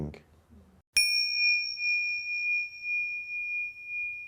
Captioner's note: bell chimes